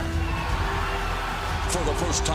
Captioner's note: cheers and applause